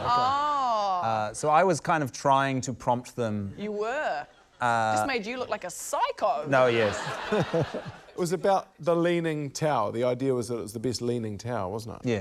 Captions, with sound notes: - Ohhh. - OK. - So I was kind of trying to prompt them. - You were? - Uh... - Just made you look like a psycho. - Oh yes. (LAUGHTER) - It was about the Leaning Tower ― the idea was that it was the best leaning tower, wasn't it?